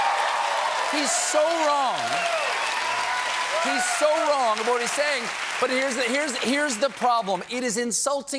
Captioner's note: cheers and applause